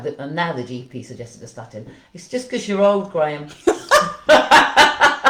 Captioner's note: laughter